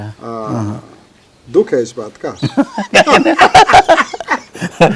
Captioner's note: laughs